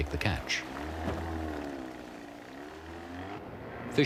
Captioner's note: boat Motor hums